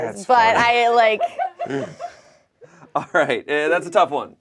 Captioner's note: crew member laughs